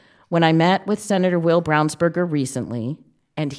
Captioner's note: none